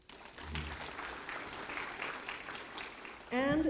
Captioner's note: applause